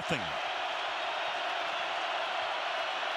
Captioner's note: crowd cheering